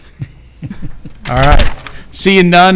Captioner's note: chuckle